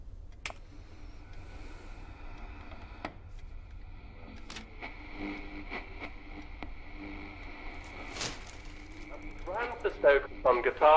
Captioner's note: radio tuning